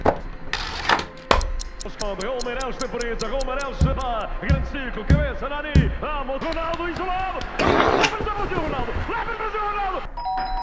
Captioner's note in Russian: звуки спортивной прогарммы; звонок